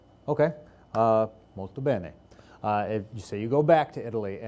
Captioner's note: speaking in foreign language